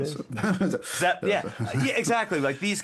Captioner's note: laughing